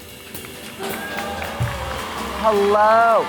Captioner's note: live band music; audience cheers